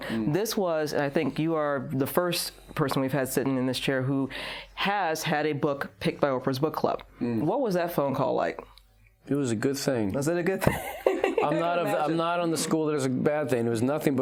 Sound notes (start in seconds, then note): 10.9 laughs